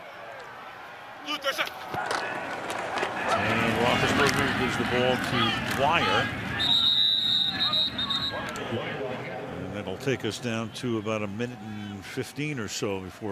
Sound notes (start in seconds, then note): 6.5 whistle; 9.3 pa announcement